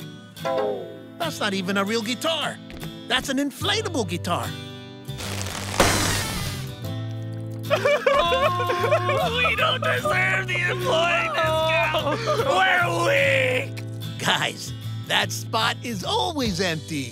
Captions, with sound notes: That's not even a real guitar. That's an inflatable guitar. [crying] We don't deserve the employee discount. We're weak. Guys, that spot is always empty.